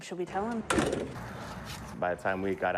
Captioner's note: wood thudding